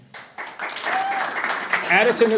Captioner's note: audience applauding